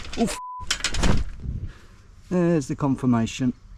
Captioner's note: beeps